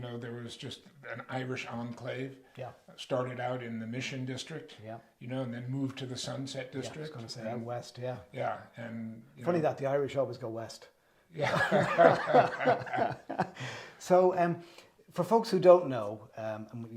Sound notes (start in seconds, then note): 11.4 laugh